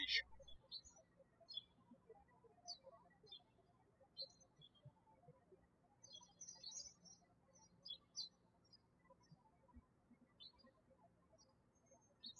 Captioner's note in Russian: птички щебечут